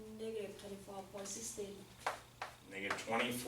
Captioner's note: voiceover